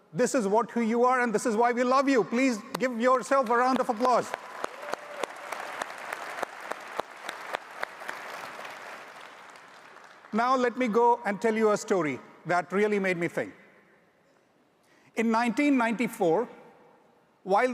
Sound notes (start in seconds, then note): 3.4 audience applauds loudly